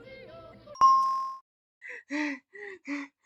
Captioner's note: ding